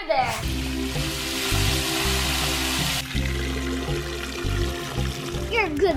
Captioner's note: wooshing; water rushing; gentle low music